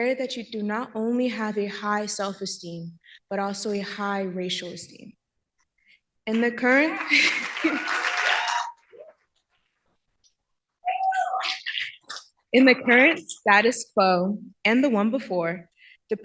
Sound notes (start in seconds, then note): 6.8 cheering